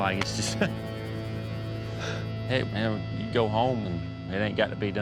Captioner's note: scoffs, sighs